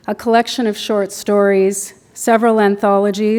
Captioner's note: none